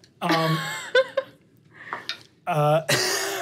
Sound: laughs

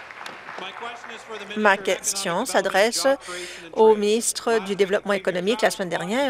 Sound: applause

